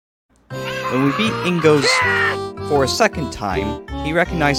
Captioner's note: Link Noise